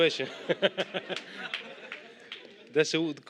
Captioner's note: laughter